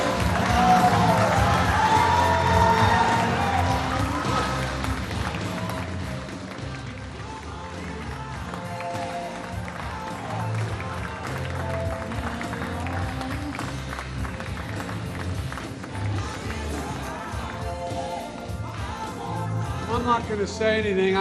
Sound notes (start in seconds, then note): 4.4 applause and music